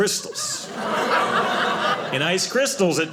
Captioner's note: audience laughing